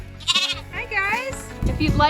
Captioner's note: lamb bleating